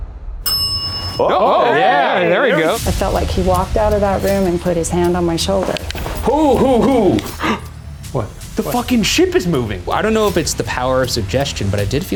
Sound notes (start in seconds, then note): 0.4 bell rings; 1.2 all exclaim; 6.4 exclaims